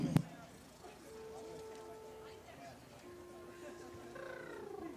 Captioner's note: crowd chattering